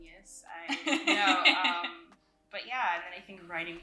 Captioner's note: laughs